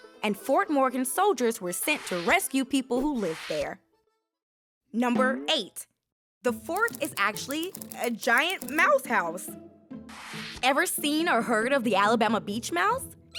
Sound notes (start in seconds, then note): 5.1 image boings